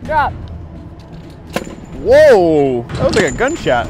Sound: bolt thuds

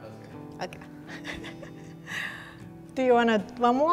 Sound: laughs

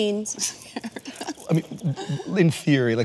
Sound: laughing

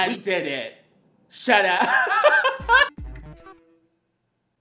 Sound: laughs

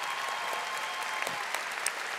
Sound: audience applauding

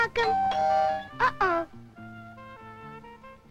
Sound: doorbell

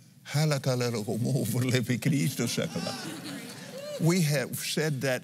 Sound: speaking in tongues

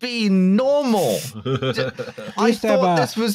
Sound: laughs

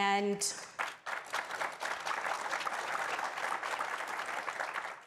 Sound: audience applauding

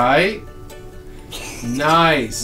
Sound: laughing

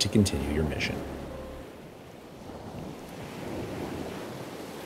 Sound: sounds of waves breaking

